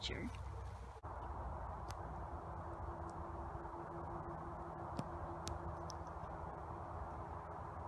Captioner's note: traffic noise in background